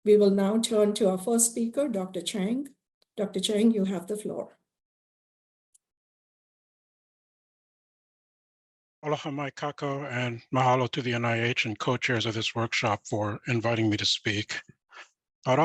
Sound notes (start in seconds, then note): 9.0 speaks in foreign language